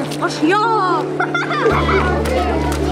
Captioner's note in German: Kinderlachen